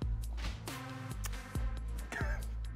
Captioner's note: lips smacking; laughs